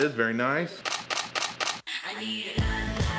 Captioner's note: camera shutter clicking